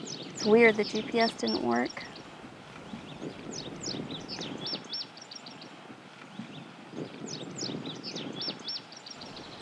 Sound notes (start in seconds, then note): 2.7 birds tweeting